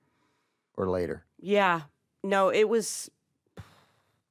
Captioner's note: puffs